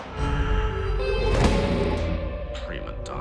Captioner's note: thud